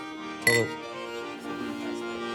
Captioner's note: accordion music; glasses clink